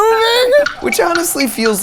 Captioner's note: clock ticking